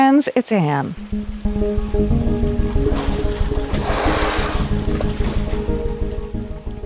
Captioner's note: tranquil music; whale blowing air